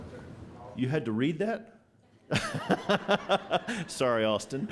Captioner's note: laughter